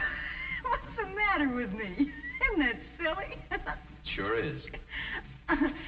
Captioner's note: laughs